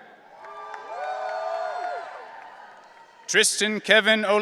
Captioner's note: audience cheering